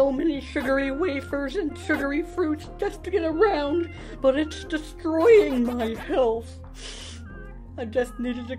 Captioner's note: sniiff